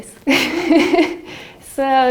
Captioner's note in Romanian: râsete